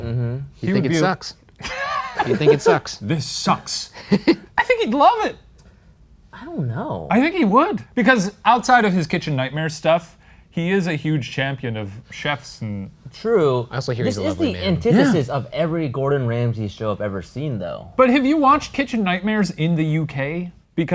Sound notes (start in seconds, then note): 1.6 laughing; 3.9 laughs